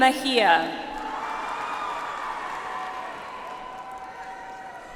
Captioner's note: audience applauds